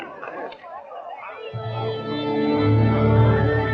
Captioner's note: chattering